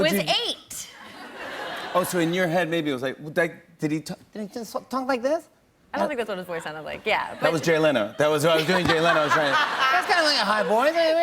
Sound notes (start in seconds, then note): 2.5 high-pitched voice; 6.0 normal voice